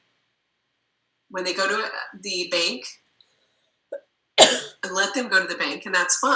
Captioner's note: coughs